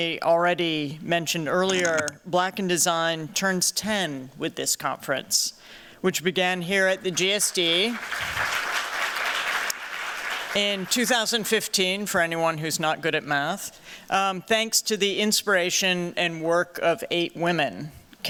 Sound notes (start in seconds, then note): 7.1 applause